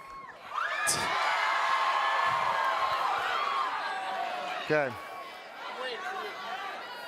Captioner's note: cheering